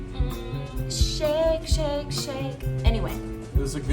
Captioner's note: singsong